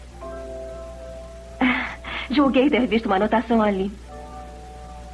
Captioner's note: scoffs